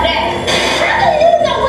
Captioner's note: TV Static